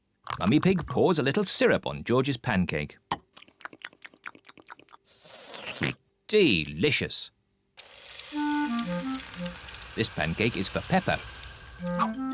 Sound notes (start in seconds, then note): 3.4 slurps and oinks